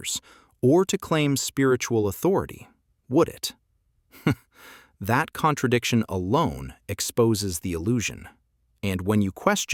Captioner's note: laugh